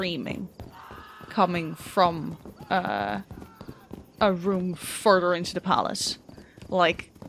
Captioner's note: distant screaming